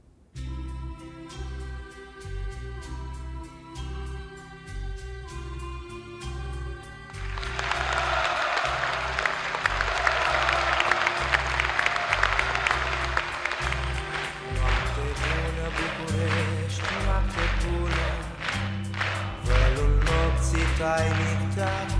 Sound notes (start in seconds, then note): 7.8 resounding applause